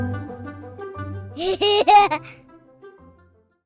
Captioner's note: laughter